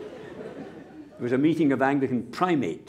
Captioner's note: laughter